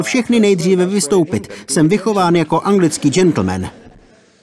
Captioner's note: laughter